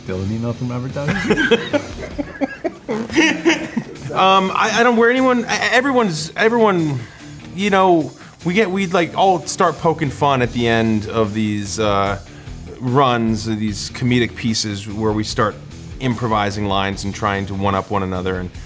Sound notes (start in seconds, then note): 1.0 laughter